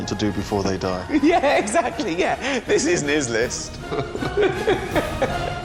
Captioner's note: laughs